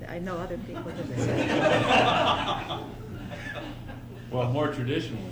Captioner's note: laughter